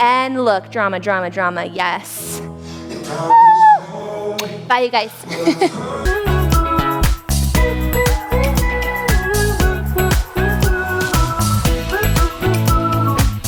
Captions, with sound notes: and look. Drama, drama, drama. Yes! (squeals) (kissing sound) Bye you guys! (upbeat music)